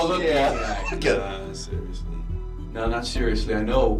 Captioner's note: chuckles